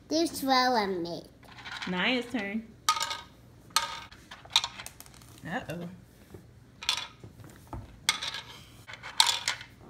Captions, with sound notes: - This fell on it. - [Voiceover] Naiah's turn. Uh oh.